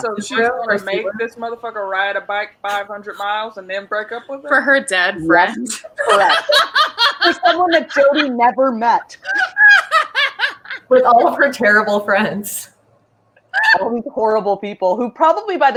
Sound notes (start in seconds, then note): 5.5 laughs